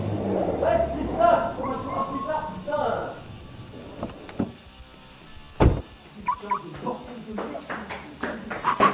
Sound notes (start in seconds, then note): 5.6 sound of door slamming